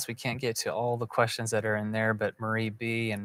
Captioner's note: none